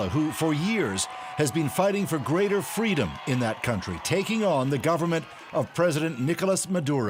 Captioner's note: cheers and applause